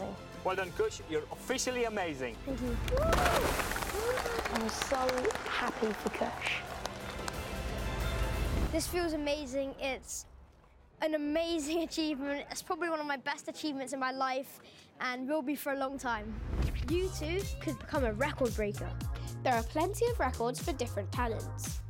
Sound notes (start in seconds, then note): 2.7 applause